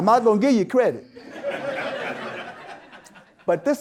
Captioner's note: audience Laughter